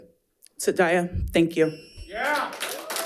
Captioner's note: speaks in foreign language; audience applauding